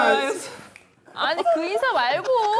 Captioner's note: finger snaps